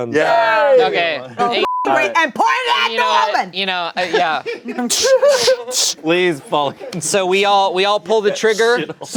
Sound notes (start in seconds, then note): 1.6 beep